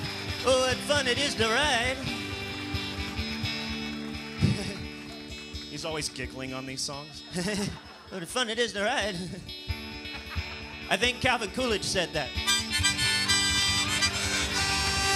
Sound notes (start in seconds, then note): 5.5 normal voice; 12.3 harmonica plays; 14.9 cheers and applause